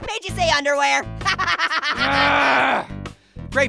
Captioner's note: laughing; raging